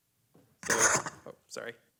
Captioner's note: screech